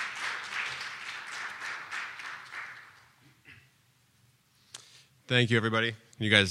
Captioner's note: clapping